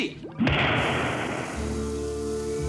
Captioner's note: bang